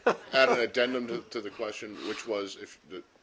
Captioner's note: laughter